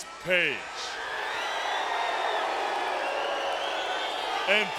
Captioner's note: audience booing